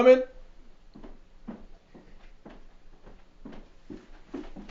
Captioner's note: footsteps on stairs